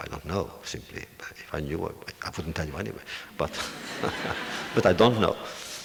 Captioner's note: audience laughter